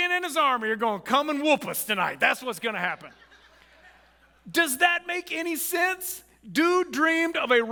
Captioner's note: audience laughs